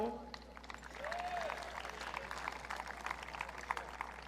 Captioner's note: audience cheering